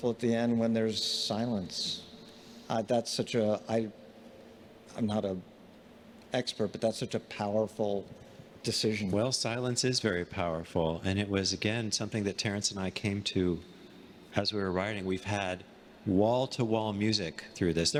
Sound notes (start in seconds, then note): none